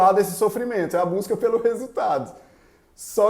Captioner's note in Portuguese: risos